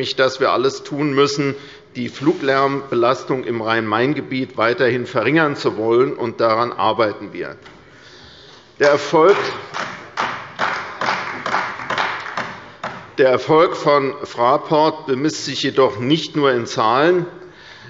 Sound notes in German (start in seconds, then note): 9.2 Beifall bei der CDU